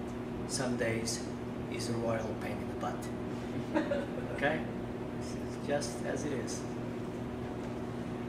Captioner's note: audience laughs